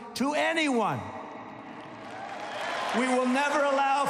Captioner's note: applause